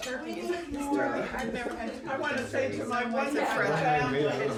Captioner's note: excited talking